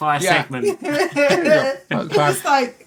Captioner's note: laughing